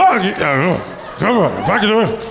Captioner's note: through gritted teeth